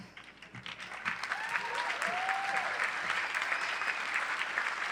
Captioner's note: applause